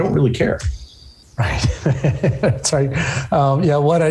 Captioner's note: chuckling